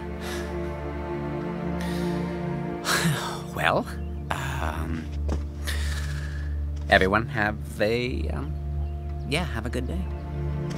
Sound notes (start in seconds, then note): 2.8 sighs; 4.6 draws breath; 10.5 somber dramatic music